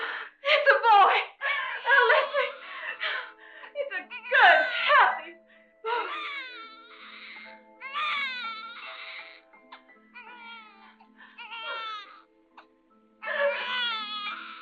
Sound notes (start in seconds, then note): 6.3 light somber music; 11.3 baby crying